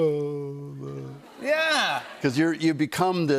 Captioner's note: laughter